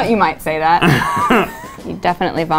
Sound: man laughs

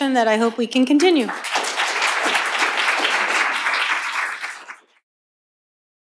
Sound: applause

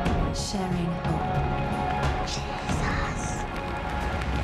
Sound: child whispers

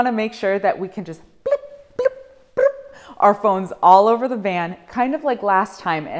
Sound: bloop

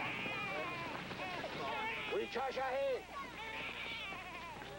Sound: speaking Sioux

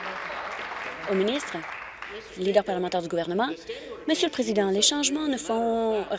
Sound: applause

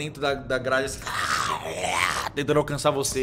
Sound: growls

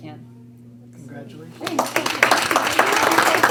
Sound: applaud

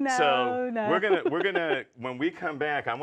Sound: laughing

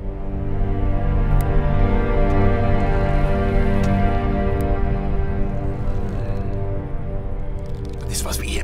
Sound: music swells; sounds of creaking vines and grunting

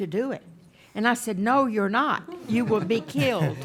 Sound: people chuckling

